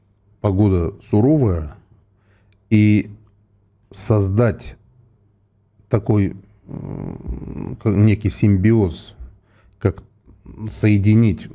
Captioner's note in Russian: фыркает